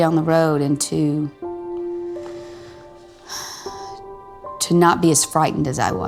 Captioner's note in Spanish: heavy breath